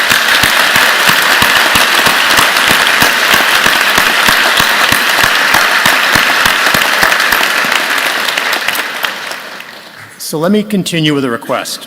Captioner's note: applause